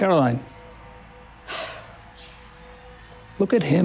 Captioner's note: sighs